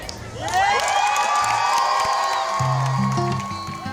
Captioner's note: crowd cheering; smooth rhythmic music